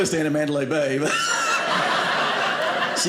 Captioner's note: audience laughing